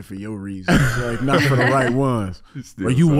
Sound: Iman and Amber laughing

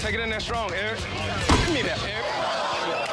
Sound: crowd gasping

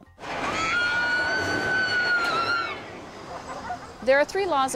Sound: screaming

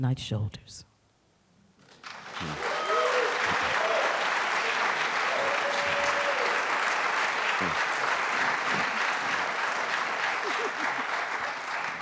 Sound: applause

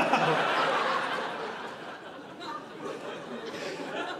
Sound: audience laughing

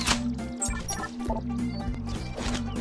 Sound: mechanical noise; technological sound

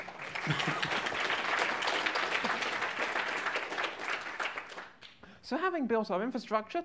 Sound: applause

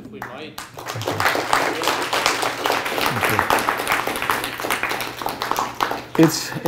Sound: applause

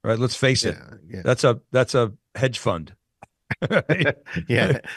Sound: laughing

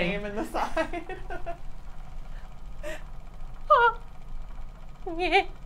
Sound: laugh

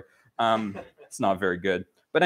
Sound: laughter

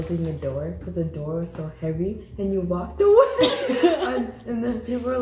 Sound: laughing

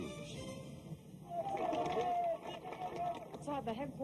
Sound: applause

